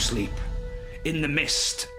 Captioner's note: creepy noise plays